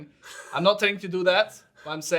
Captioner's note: chuckling